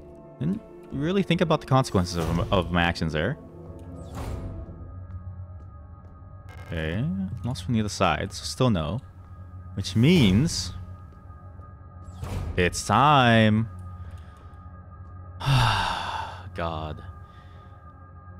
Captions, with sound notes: Didn't really think about the consequences of my actions there. Okay, locked from the other side, so still no. Which means... ...it's time! *sigh* god...